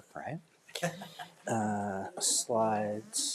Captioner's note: laughs